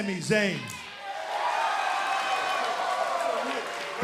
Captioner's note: cheers and applause